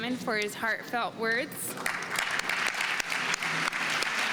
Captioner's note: applause